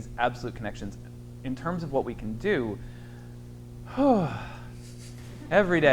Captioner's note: sighs